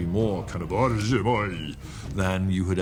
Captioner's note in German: spricht fremdsprache